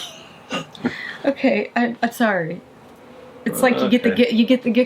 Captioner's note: laughing